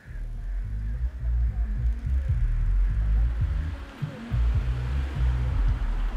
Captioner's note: car humming; rap music